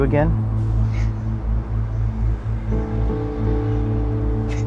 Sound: sobs

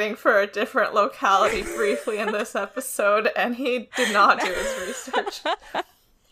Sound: laughs

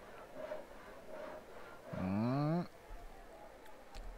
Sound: HHHmmm

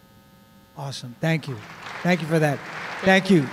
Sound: applause

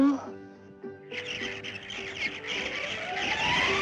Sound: birds Chirping

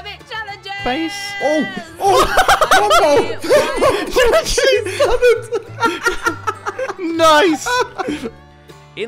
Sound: laughter

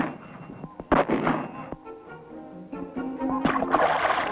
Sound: splash

